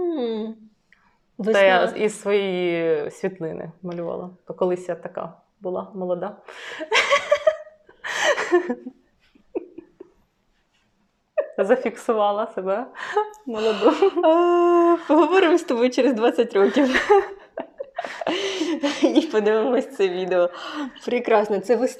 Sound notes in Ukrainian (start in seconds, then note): 6.4 сміх